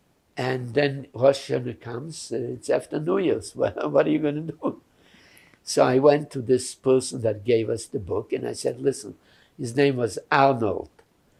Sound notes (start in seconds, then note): 3.6 laughing